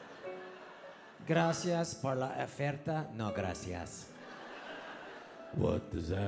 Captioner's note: speaking in foreign language